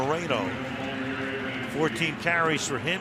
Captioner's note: pa announcement